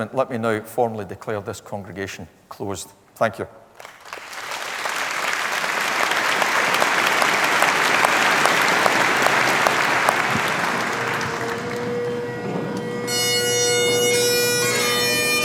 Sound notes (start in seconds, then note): 3.7 applause